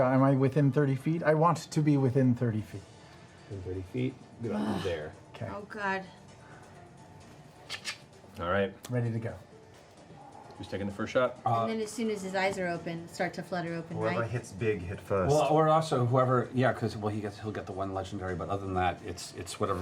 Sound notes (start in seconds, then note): 7.6 crossbow loading